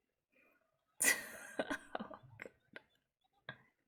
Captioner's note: laughs